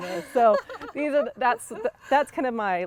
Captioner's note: laughing